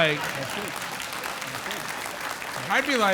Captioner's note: audience applauding